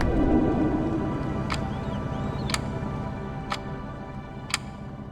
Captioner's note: clock ticking